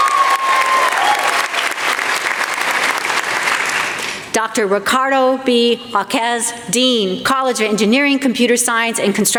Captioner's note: applause